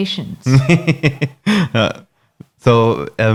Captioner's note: laughing